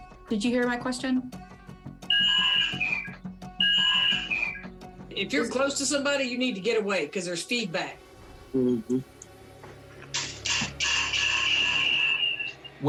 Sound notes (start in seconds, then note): 2.1 feedback whines; 9.5 feedback whining